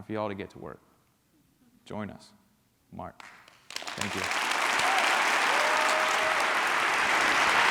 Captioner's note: applause and cheering